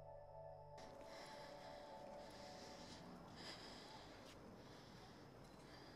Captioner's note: Keely breathes heavily